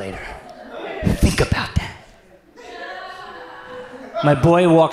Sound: audience laughs

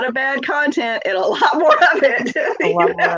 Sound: laughs

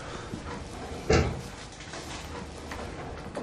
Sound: thud

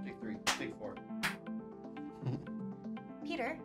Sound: snap; chuckles

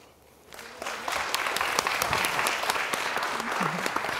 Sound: applause

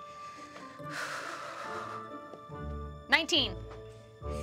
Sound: sighs

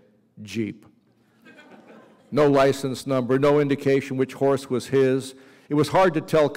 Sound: laughter

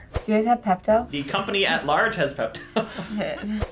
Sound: laughs

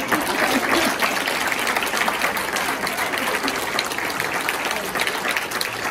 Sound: people applauding

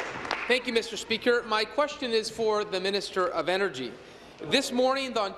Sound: applause

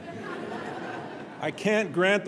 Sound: audience laughing

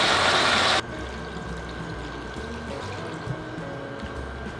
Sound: simmering; water pouring

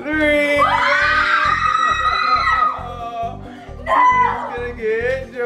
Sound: screaming

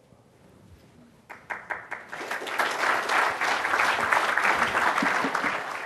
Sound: audience applause

